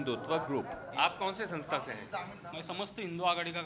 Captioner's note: speaking hindi